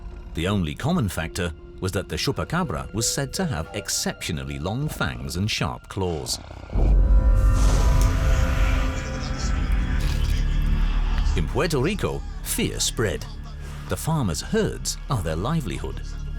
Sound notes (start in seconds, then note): 6.3 snarls; 8.8 TV plays quietly